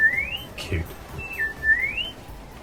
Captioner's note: R2 sounds in the background